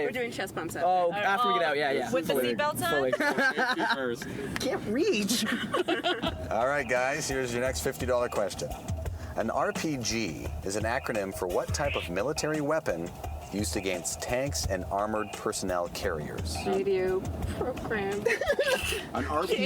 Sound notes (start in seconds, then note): 2.8 laughing